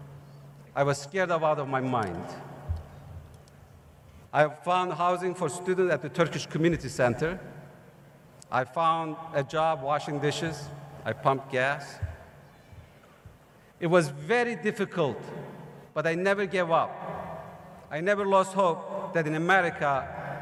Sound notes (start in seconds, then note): none